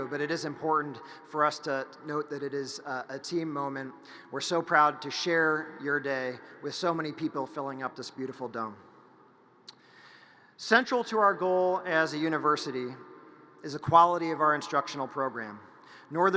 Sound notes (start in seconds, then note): none